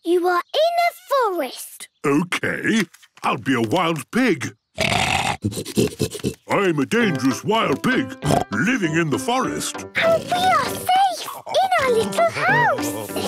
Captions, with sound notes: - You are in a forest! - Okay! I'll be a wild pig! (snorting) I'm a dangerous wild pig! (snorts) Living in the forest! - And we are safe in our little house!